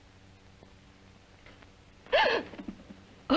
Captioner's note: gasps